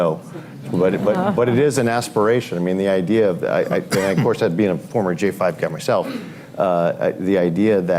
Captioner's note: laughter